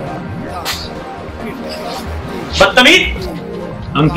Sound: slap

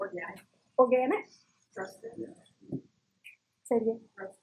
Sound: laugh

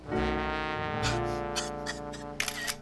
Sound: crying; camera flashing

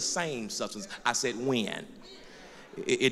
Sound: voiceover

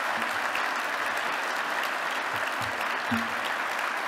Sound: applause

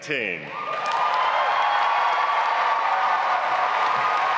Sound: audience applauds

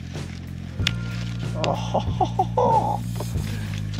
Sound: excited noises

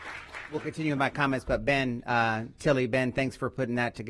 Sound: applause

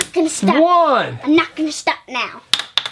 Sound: voiceover

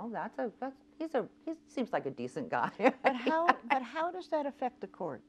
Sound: laughs

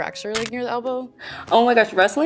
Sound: bone cracking

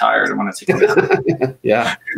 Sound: laughing

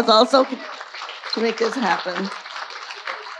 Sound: audience applauding

